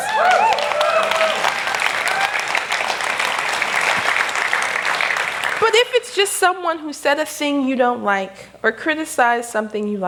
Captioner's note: applause